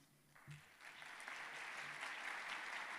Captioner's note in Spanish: aplausos